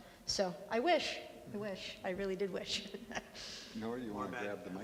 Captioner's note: laughs